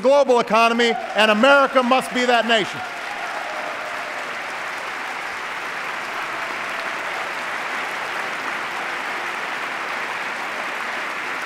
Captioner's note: applause